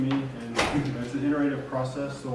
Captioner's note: door closing drowns out speaker